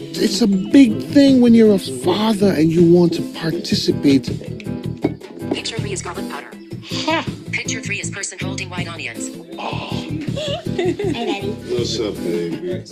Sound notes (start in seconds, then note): 10.1 person giggling